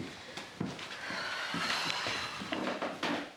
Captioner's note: sighs